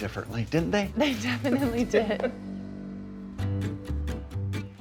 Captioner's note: John chuckles; lighthearted music